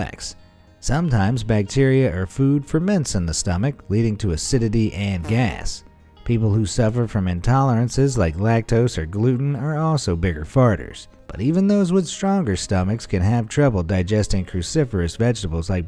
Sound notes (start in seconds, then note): 6.0 woman farts